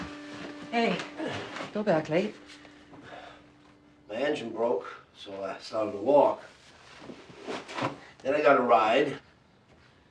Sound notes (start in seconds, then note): 0.0 groaning; 3.2 Cody sighing